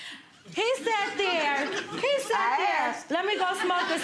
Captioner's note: audience laughing